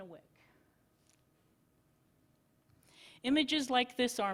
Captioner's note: silence